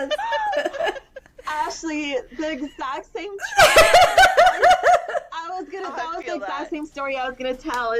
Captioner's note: laughter; laughter